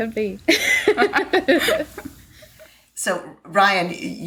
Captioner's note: laughter